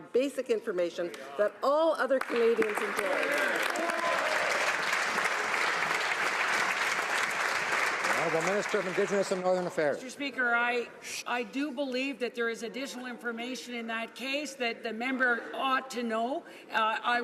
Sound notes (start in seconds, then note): 6.9 some Applause